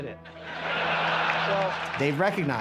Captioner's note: laughter